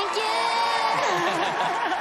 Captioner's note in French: laughter